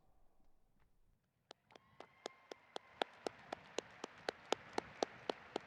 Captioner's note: audience applauding